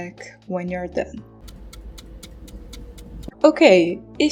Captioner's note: clock ticking